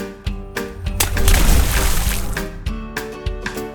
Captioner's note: instrumental music; water splashes; instrumental music